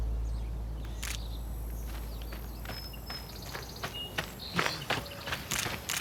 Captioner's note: camera shutter clicks